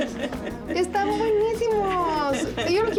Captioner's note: speaks spanish